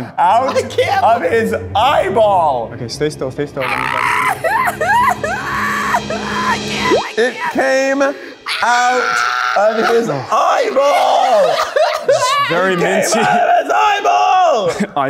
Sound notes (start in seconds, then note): 3.6 screaming; 8.4 screams